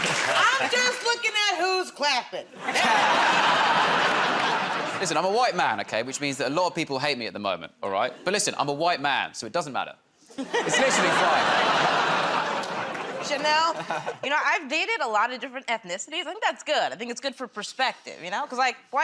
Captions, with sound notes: -I'm just looking at who's clapping. [ Laughter ] -Listen, I'm a white man, okay, which means that a lot of people hate me at the moment, all right? But listen, I'm a white man, so it doesn't matter. It's literally fine. -Chanel? -You know, I've dated a lot of different ethnicities. I think that's good. I think it's good for perspective, you know,